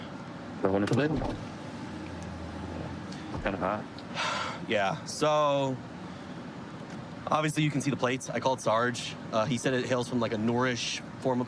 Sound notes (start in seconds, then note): 4.1 sighs